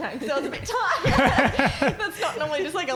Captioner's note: laughing